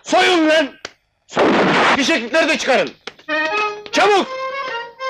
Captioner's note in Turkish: Silah sesi